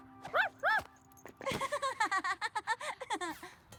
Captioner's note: giggle